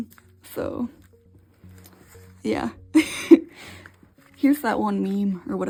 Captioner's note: laughs